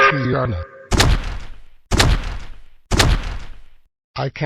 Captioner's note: stomping